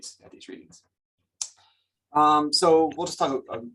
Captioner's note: clicks tongue